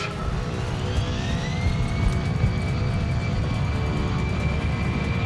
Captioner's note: plane passing